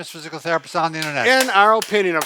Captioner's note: clapping